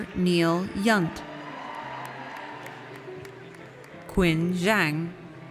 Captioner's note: audience cheers